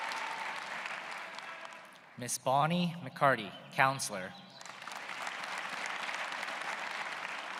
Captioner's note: applause